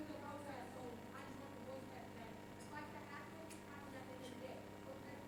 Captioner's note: speaks faintly